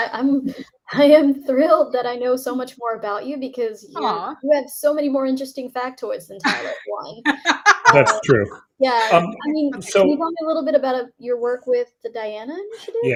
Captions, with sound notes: I am thrilled that I know so much more about you because you have so many more interesting fact toys than Tyler one. (laughs) - That's true. - Yeah, can you tell me a little bit about your work with the Diana Initiative?